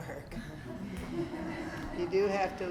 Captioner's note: students laugh